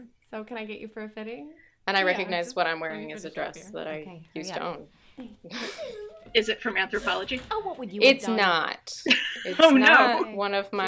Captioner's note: laughter